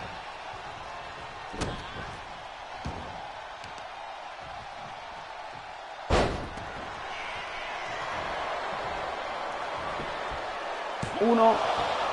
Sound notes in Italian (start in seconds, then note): 9.7 Applauso